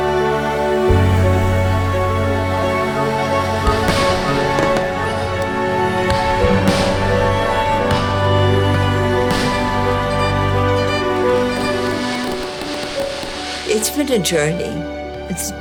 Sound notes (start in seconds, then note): 0.1 bright music continues; 5.0 fireworks booming; 8.8 bright music continues